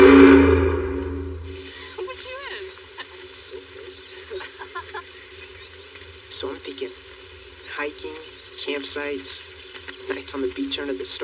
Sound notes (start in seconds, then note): 4.2 Layla laughghs